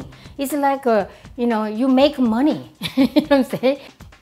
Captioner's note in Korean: 웃음